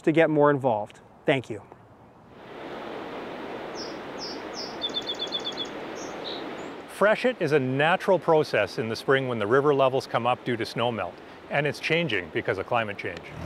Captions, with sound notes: to get more involved. Thank you. [chirping] -Freshet is a natural process in the spring when the river levels come up due to snow melt and it's changing because of climate change.